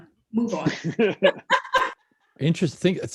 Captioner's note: laughter